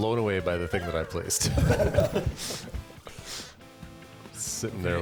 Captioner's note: upbeat music; players laughing